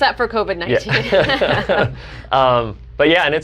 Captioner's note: both laugh